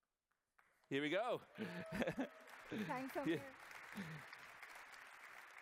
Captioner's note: applause